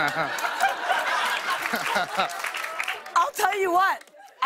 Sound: laughter; applause

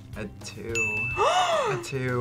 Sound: gasps

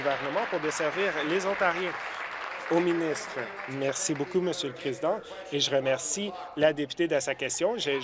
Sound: applause

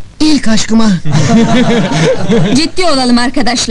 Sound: laughing

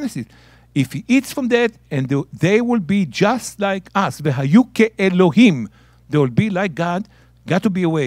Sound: speaking in Hebrew

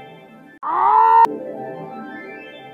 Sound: Pyro TF2 Scream

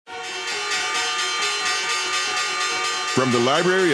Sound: bells ring

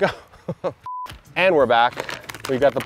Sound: computer beep

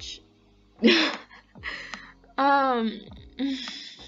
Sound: laughs

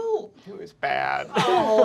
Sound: giggling

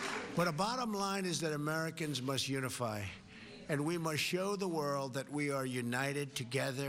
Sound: cheers and applause

